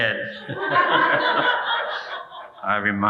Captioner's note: audience laughing